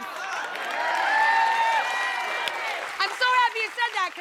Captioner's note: cheers